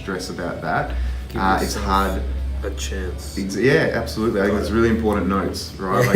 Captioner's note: laugh